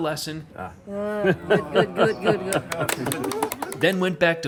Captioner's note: laughing; clapping